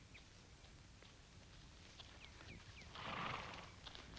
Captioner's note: horse snickers